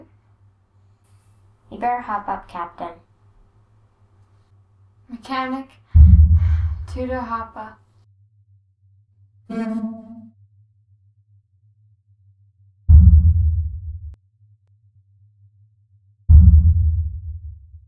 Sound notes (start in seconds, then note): 6.4 gasp; 9.5 wee-ooo!